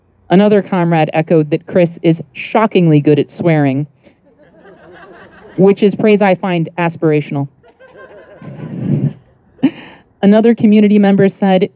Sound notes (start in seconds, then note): 4.2 audience laughing; 7.6 chuckles; 7.6 audience laughing